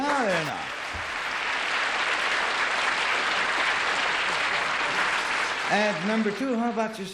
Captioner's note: applause